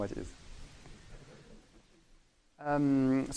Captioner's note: laughing